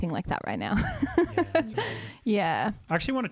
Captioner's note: laughs